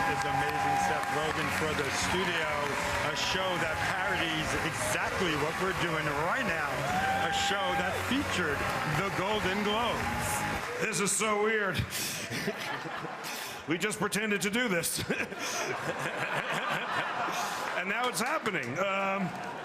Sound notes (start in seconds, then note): 2.9 cheering and applause